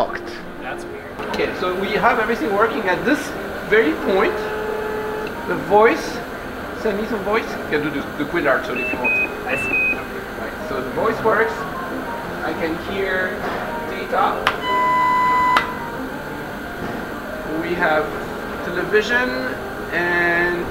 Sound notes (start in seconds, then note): 8.7 Quindar outro tone; 10.1 Quindar intro tone